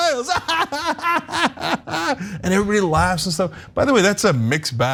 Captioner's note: laugh